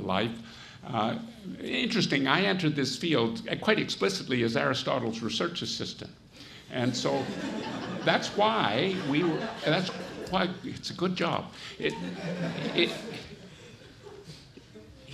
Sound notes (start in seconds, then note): 6.9 audience laughs; 11.8 audience laughs